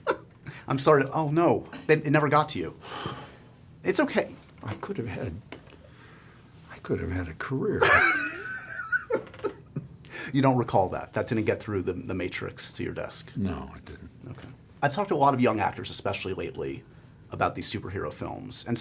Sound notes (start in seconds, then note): 7.8 laughs